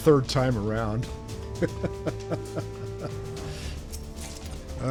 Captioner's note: laughs